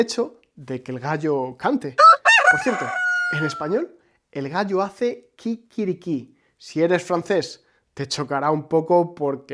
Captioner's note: Quiquiriquí